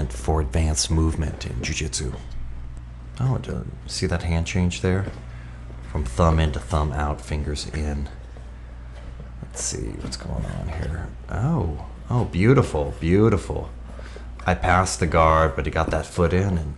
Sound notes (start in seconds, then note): none